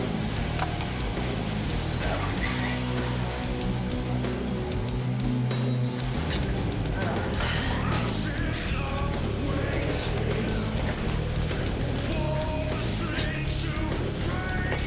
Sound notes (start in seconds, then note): 10.3 grunts